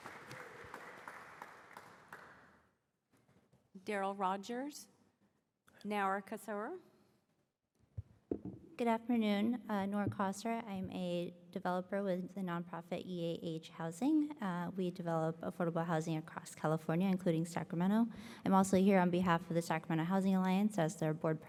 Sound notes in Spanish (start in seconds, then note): 2.6 Aplausos